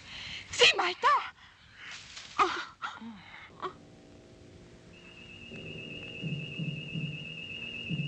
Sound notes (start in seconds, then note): 2.8 women gasping; 3.5 slow dramatic music